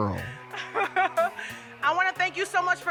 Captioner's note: laughs